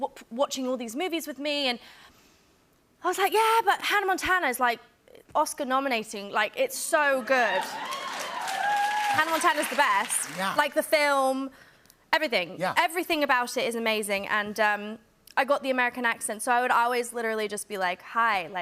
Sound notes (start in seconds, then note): 7.3 cheers and applause; 16.4 American accent